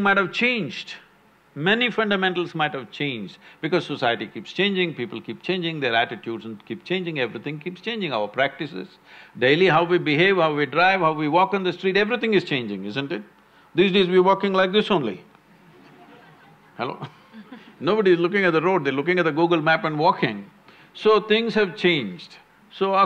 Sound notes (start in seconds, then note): 15.6 laughs; 15.6 few laugh